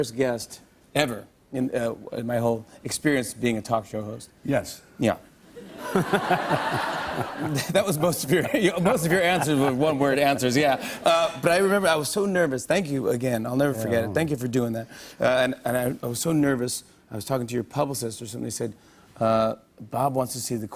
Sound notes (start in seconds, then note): 5.6 laughter